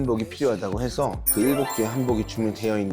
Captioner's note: world-class sound effect